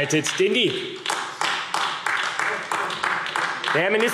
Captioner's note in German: Beifall AfD